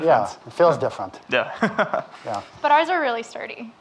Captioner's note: laughing